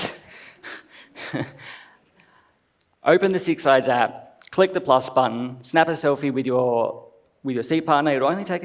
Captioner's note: laughs